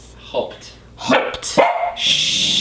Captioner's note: Ichi barks and growls